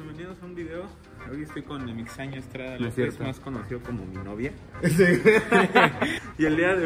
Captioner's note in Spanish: risas